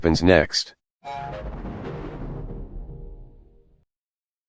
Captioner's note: Anti 3D Giga Windows XP Shutdown Sound